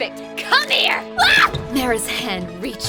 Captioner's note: Molly screams